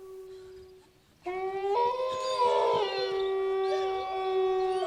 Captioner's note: wolves howl